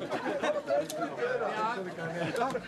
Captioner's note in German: Lachen